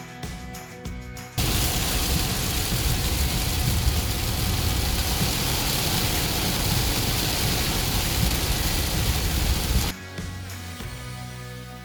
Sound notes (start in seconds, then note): 1.4 rain falling